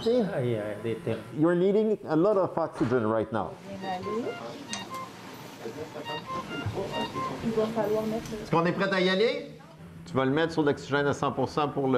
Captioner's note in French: bips du moniteur